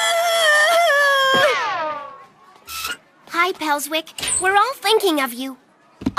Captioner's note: screaming